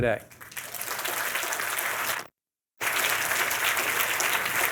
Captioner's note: audience applauding